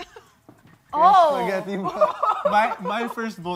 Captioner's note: chuckles